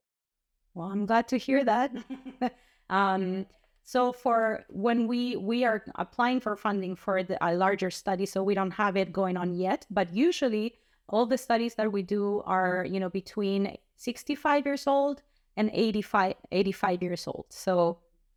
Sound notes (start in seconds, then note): 1.9 laughter